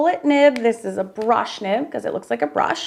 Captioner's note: marker cap clicking